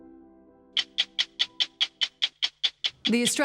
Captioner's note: clock ticking